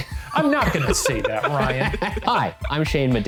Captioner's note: laughing